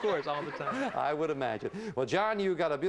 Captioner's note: audience laughing